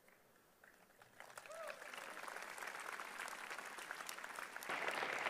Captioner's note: applause